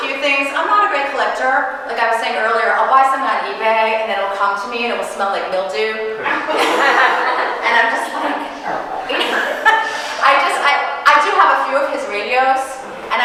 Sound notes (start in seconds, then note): 6.2 audience laughing; 9.1 chuckling